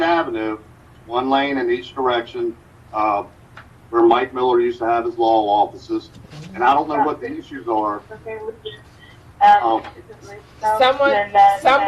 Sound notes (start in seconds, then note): 8.1 group chatter